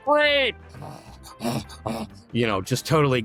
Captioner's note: vocalizing